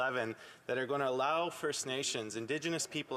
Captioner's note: speaking alternate language